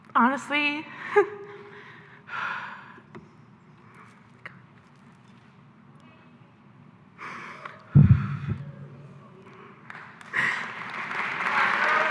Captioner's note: A single person in the audience cheers - followed by the rest; silence